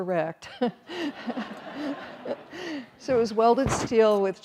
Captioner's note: all laughing